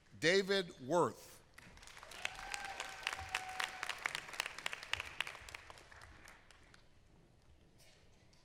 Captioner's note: applause; applause; applause